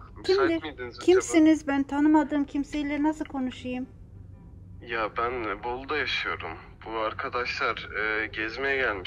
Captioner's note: conversation on phone in Turkish